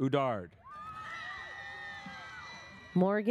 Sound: audience cheers

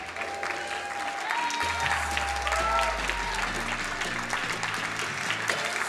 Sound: crowd cheering and applauding

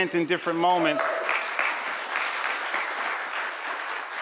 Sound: applause

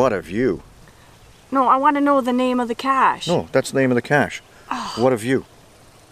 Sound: heavy sigh

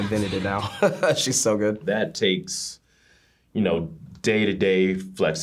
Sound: chuckles

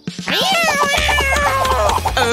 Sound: meows wildly

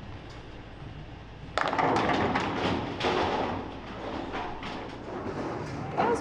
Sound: pins clattering

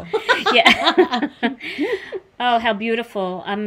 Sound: everybody laughs

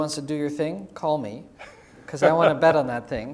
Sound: laugh

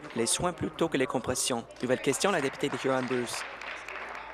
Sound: applause

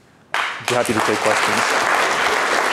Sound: clapping

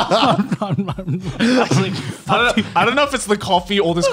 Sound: laughs

